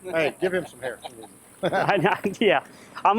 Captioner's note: laughing